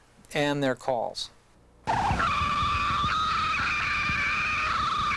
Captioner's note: shrieking